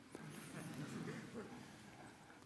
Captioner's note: audience laughing